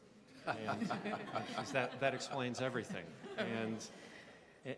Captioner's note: laughing